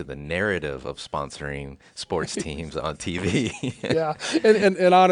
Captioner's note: laughs